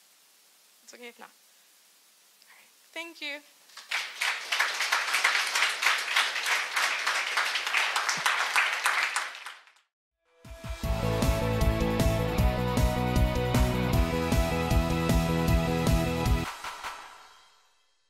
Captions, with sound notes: It's okay if not. Thank you. (applause) (upbeat music)